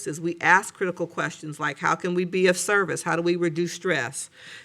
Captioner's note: none